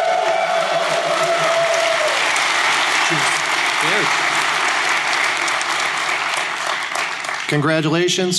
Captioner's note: applause